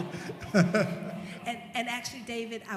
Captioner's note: laughter